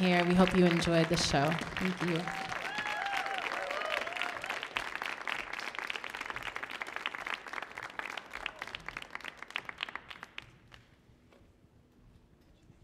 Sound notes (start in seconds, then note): 3.3 audience cheering